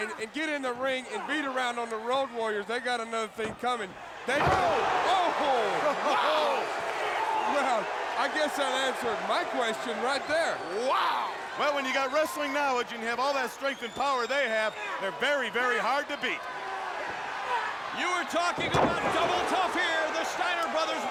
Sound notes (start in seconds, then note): 7.3 crowd cheering; 16.4 crowd cheering